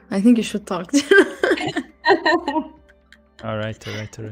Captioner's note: laughter